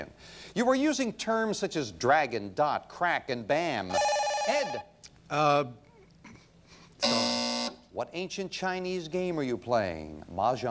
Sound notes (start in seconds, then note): 3.9 bell rings; 7.0 buzzer sound